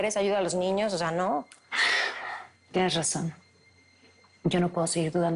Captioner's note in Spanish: Leticia exhala